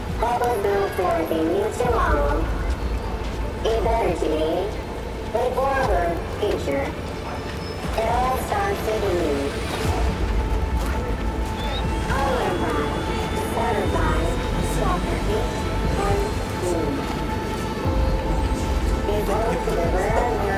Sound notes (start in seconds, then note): 12.2 chattering; 17.8 dramatic music